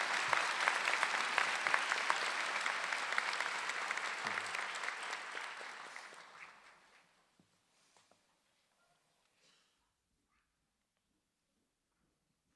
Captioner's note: applause